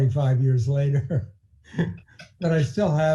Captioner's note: laughing